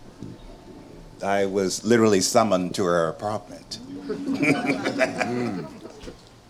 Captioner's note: laughing